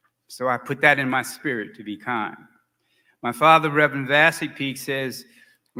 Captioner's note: none